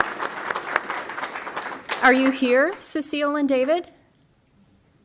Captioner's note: applause